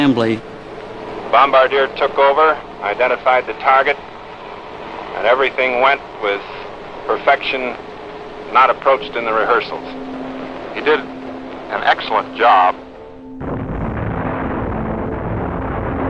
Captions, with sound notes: BOMBARDIER TOOK OVER, IDENTIFIED THE TARGET, AND EVERYTHING WENT WITH PERFECTION NOT APPROACHED IN THE REHEARSALS. HE DID AN EXCELLENT JOB. [ EXPLOSION ]